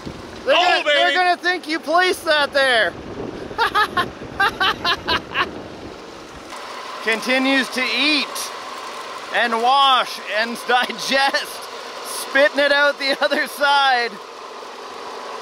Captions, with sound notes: They are gonna think you placed it out there.(laughs) (machinery engine revs) Continues to eat and wash and digest, spitting it out the other side.